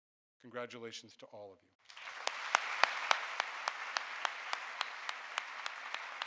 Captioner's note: audience applauding